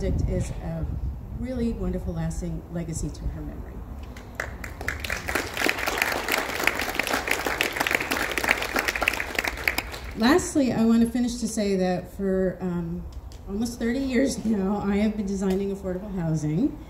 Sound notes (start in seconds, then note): 4.1 applause